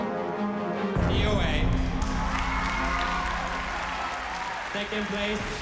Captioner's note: cheering